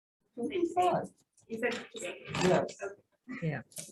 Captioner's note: gentle chattering